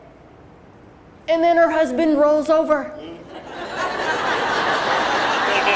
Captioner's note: crowd laughs